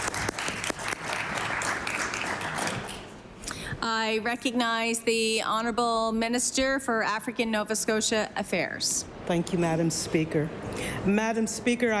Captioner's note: applause